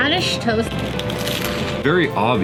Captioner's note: crunch